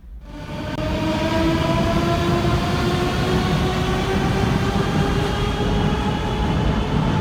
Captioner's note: train leaves to the next station